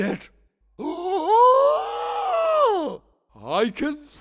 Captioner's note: exaggerated gasp